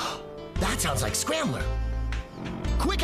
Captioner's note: gasp!